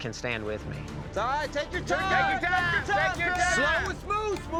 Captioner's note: cowboys shout encouragement